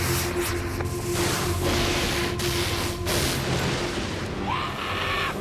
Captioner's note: rocket hisses; lightning zaps; thunder claps